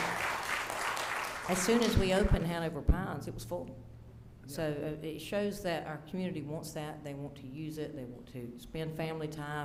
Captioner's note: applause